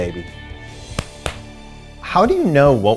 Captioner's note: hand slapping